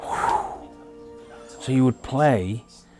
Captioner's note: exhales